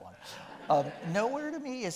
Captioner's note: audience laughing